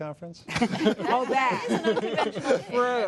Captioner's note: laughter